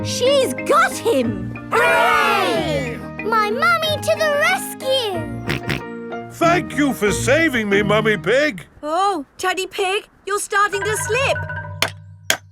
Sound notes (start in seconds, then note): 6.2 snorting